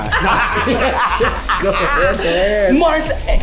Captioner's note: everyone laughs